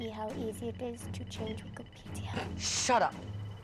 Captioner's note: snorts